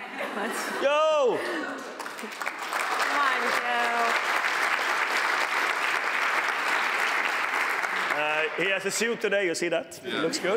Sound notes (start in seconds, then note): 5.5 applause